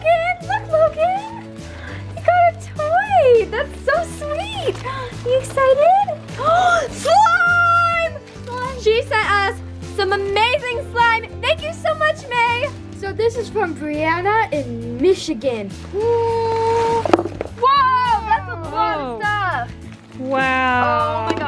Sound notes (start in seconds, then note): 6.2 gasping